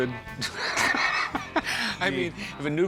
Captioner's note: laughter